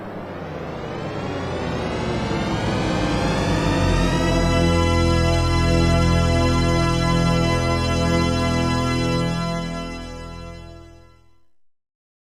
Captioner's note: yells out THX Deep Note